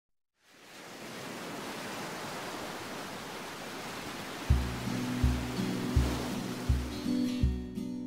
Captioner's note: ocean Sounds